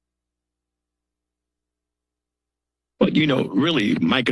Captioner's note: silence